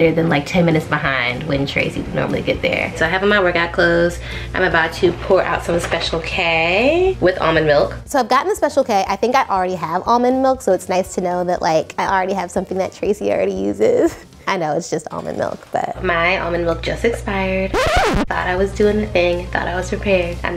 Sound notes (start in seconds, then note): 17.7 record scratches